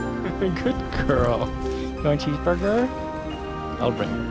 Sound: laughter

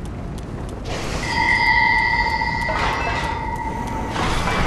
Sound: ding

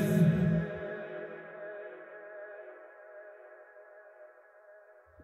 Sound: echo

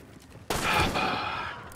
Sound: sigh

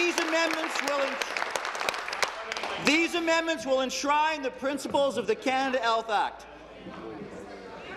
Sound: applause

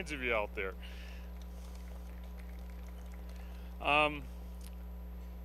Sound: applause

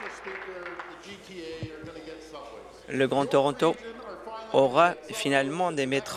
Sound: applause

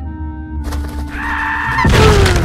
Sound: SMG4 screams

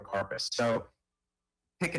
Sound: ~audio distortion~

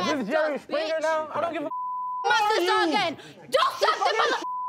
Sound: beep

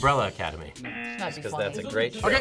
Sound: buzzer rings; buzzer

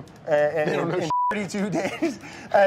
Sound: beeps

